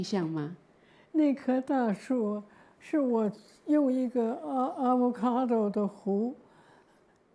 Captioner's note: Mandarin